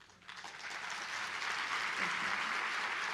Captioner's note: applause